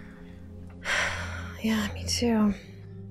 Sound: sighs

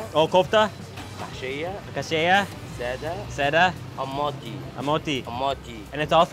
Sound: speaking in foreign language

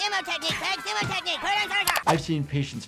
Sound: shouts gibberish

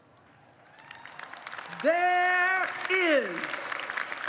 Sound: applause

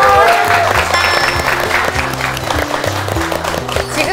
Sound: claps

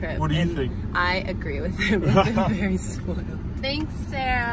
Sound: laughter

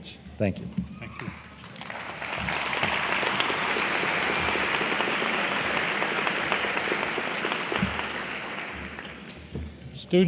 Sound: applause

